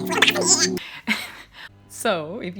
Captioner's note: laughing